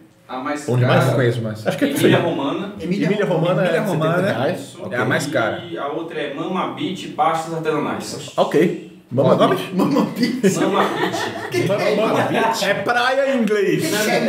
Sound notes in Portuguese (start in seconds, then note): 9.7 risos